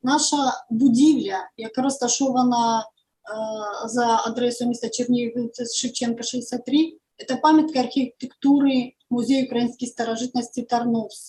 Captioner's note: foreign Language